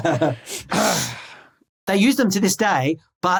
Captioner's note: laughs; grumble